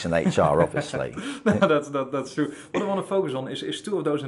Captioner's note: laughing